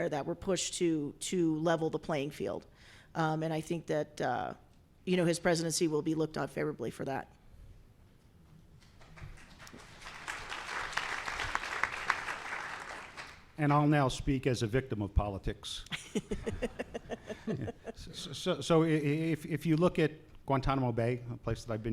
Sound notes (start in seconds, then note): 8.8 applause; 15.9 laughs